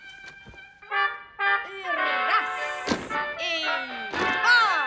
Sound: instructs in Russian

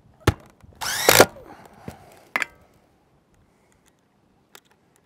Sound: power tool whirring

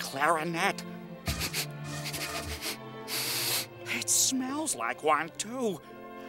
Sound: sniffing

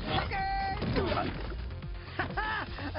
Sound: heavy thud; laughs

